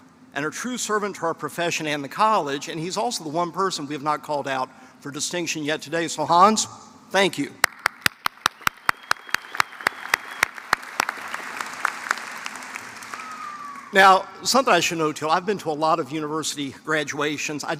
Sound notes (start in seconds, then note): 7.6 applause